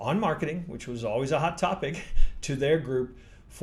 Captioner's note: chuckles